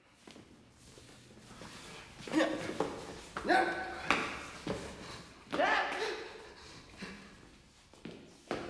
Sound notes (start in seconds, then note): 2.1 grunting